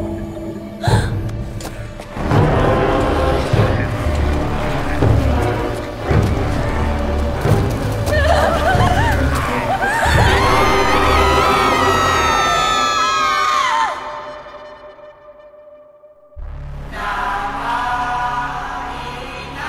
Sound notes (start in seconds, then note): 0.8 gasps; 1.3 soft growling; 4.8 tense music; 8.0 terrified screams; 8.0 shrieks; 9.2 growls; 16.4 tense theme music